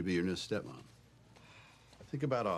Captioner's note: sighs